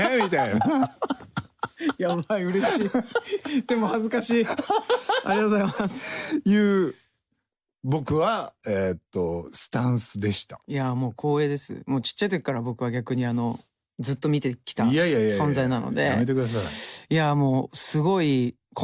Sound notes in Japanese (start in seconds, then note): 6.8 爆笑; 7.1 break into a laugh